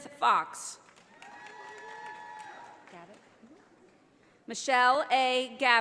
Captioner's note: audience applauding